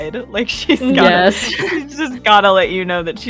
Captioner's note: laughter